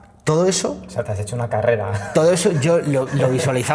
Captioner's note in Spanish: risas